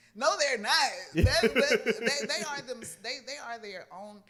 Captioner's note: laughs